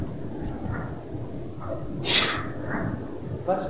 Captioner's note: audience member sneezes